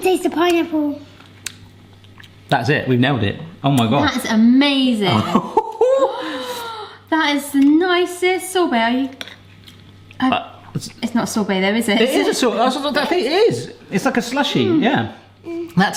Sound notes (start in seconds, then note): 6.1 gasping